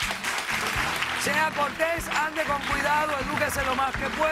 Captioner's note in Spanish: aplausos